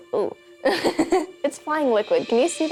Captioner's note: laughing